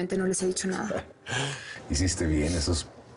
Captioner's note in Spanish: Ríe